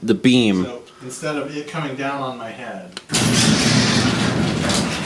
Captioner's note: presses button, garage door noises